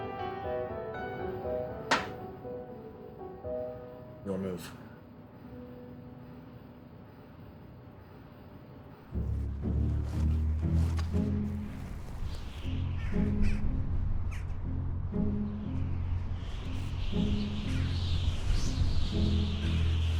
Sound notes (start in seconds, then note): 10.7 somber music; 11.9 birds chirping; 17.3 wind whistling